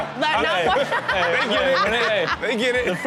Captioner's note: audience and host laugh